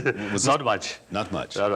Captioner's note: laughs